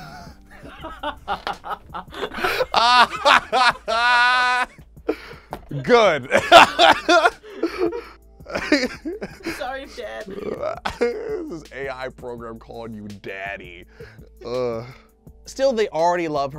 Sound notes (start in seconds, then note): 0.5 both laughing; 6.2 laughs